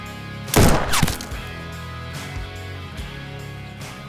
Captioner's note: gunshot banging